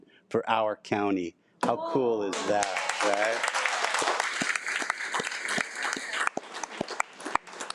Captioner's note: audience applauding